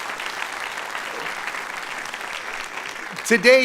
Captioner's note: applause